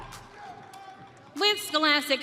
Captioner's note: audience cheering